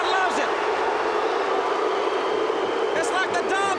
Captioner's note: crowd chatter